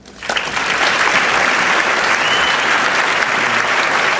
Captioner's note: audience clapping